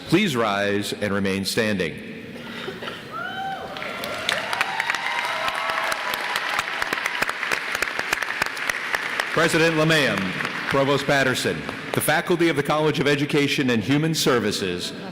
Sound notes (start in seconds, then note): 3.7 applause